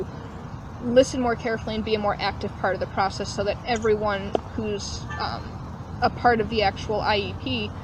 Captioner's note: phone pings